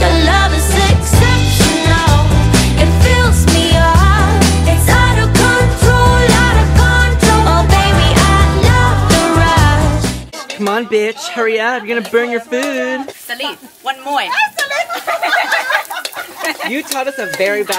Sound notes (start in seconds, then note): 13.6 cursing in Thai; 14.3 cracking up